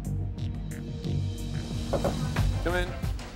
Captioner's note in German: klopfen